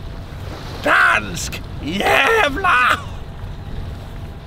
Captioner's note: said in Swedish